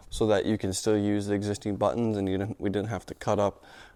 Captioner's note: none